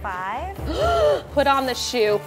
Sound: gasps

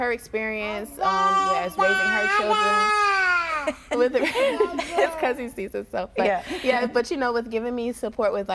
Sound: laughing

